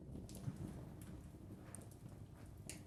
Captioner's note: quiet fire crackling